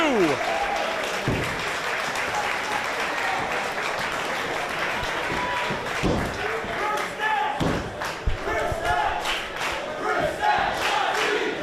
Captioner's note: applause